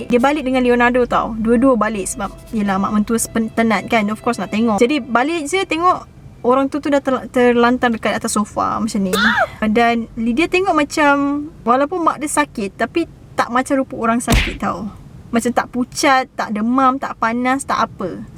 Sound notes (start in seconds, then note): 9.3 AHHH sound effect